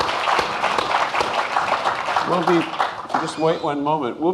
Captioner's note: applauding